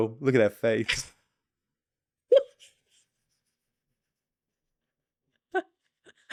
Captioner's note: laughter